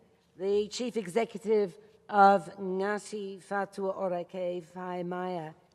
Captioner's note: speaks in foreign language